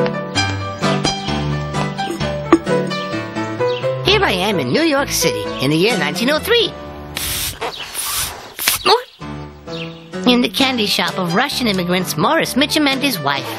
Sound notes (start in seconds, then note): 7.1 blowing bubble gum